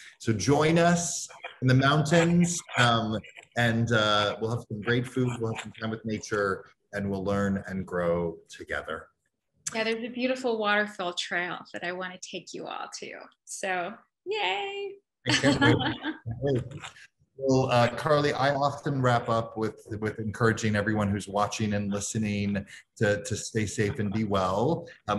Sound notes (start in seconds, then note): 15.3 laughs